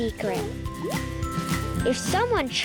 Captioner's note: planet whimpering